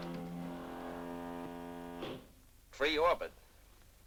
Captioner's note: buzzing sound